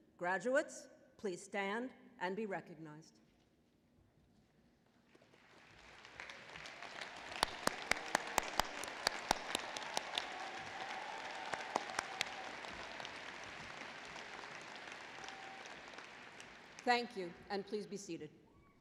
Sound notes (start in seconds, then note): 5.4 applause